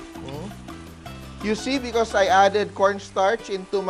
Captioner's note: sizzle